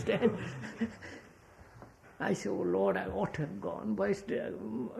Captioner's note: laughs